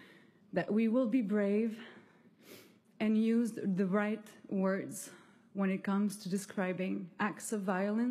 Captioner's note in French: voix de l'interprète